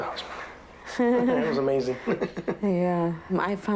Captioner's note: laughs